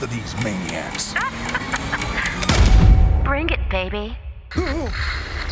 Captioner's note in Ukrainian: Сміх